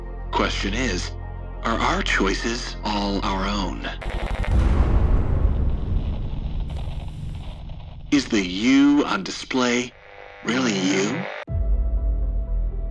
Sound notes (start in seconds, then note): 4.0 explosion; 11.5 dramatic music